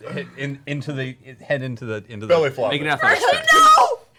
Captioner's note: shouting